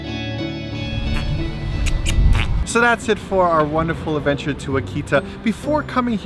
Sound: kissing and blowing raspberries

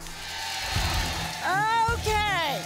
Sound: applause

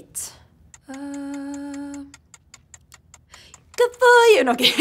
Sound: clock ticking

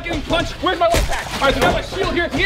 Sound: splash

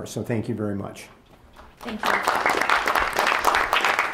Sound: applause

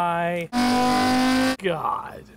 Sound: car engine revving

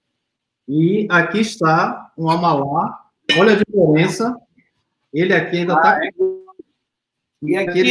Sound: speaks portuguese

